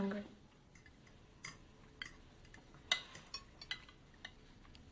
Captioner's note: cutlery clinks